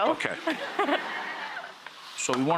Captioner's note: laughing